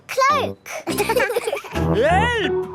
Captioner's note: laughing